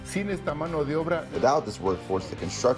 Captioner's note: through translator